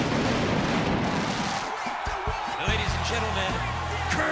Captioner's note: crowd cheering